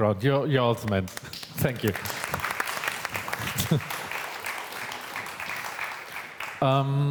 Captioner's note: applause